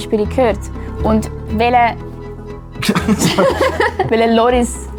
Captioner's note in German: lacht